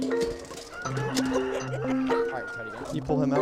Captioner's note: laughs